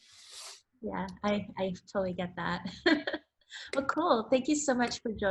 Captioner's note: laughs